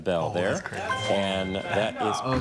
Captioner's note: chime resonating